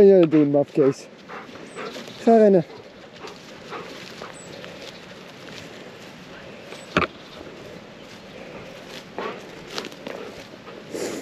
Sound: talking to Simba in dutch

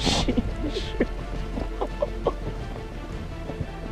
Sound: nervous chuckle whimper sounds

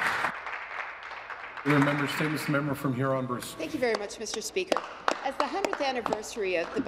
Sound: applause

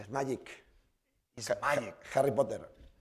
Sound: spanish

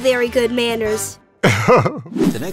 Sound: chuckles

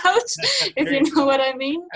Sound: laughing

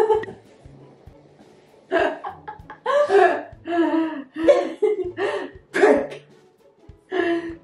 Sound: both laughing

